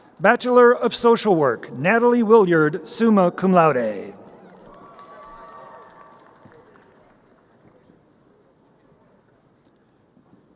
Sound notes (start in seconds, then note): 5.1 crowd cheering